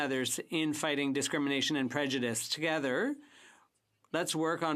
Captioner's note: speaking French